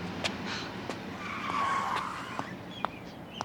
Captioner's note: car screeching